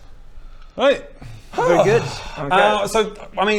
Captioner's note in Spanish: suspiro